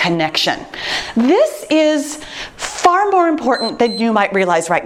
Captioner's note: timer beeps